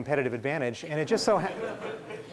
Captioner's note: laughing